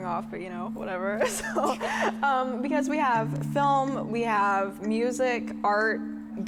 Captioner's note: laughing